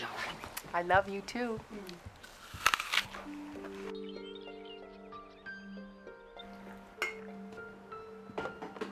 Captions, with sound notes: - I love you, too. - Mm. (apple crunching) (somber music)